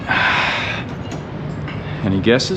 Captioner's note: sighing